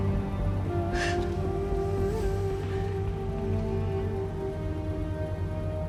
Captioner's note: sobbing